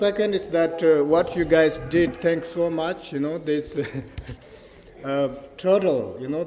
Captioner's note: laughs